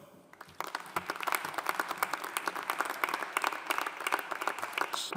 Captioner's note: audience applauding